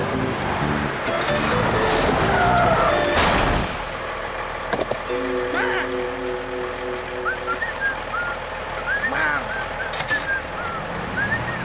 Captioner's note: applause